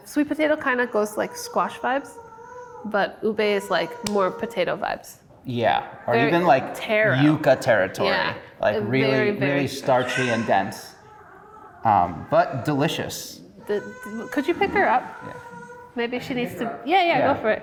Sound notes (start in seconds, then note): 13.3 baby fussing